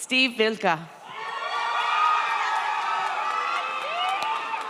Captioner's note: audience cheers